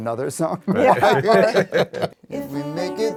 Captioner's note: everyone laughing